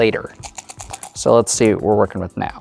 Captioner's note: dice rattling